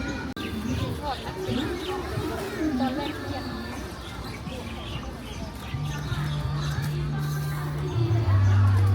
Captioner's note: people walking